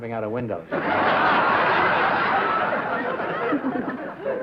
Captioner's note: laughter